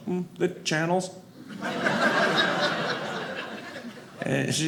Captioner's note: audience laughing